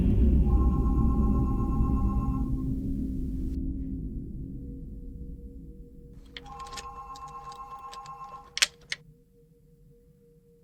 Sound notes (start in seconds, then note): 0.4 phone begins to ring; 6.2 ring